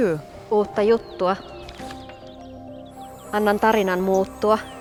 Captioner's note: speaks in Muinein language